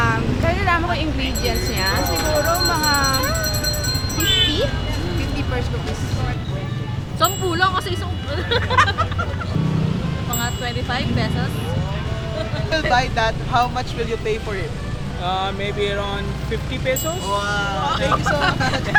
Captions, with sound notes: - Considering the ingredients, maybe Php50. - Just Php10 because it's just a single cone. (laughs) - Maybe around Php25. - If you will buy that, how much will you pay for it? - Maybe around Php50. - Wow! Thank you so much!